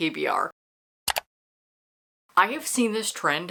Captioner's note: mouse Click